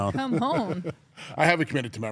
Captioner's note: laugh